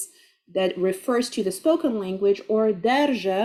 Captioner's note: speaking Arabic